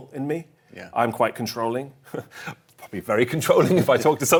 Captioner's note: chuckles